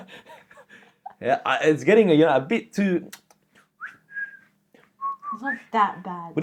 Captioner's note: whistling